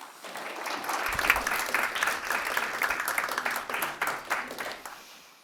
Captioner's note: audience clapping